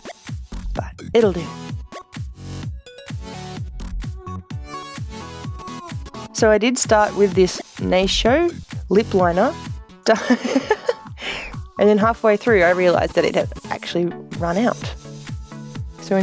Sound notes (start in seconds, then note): 10.1 laughs